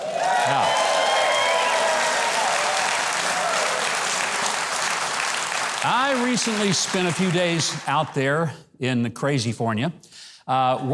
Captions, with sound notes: Now, (audience clapping and cheering) I recently spent a few days out there in the Crazyfornia,